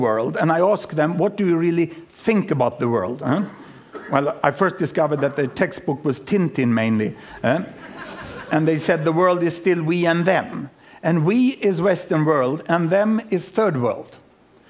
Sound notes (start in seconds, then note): 7.6 laughter